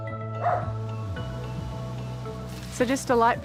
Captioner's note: barks